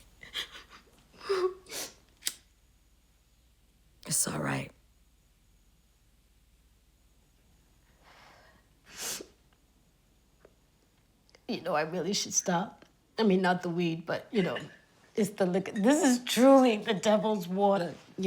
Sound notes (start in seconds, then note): 0.2 sniffling; 8.0 exhales; 8.8 sniffles